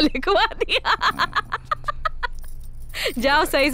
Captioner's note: Laughs